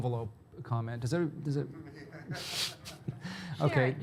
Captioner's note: laughing